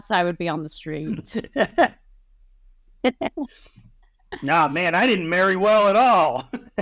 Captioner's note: nervous laughter, we love u Casper